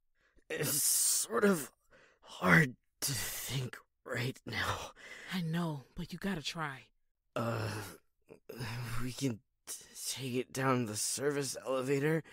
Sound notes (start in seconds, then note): 7.4 groans